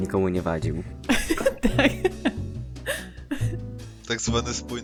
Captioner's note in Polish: śmiech